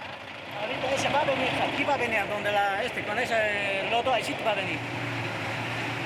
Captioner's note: driver speaking in foreign language